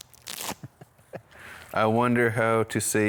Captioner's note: chuckling